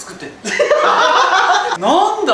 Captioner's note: laughter